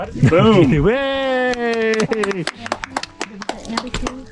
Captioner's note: cheering